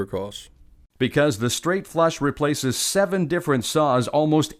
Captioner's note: voiceover